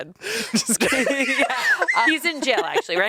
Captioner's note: everyone laughs